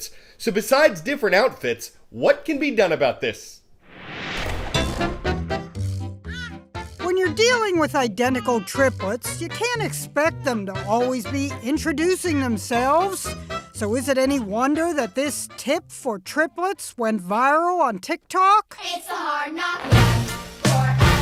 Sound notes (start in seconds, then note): 5.8 voice-over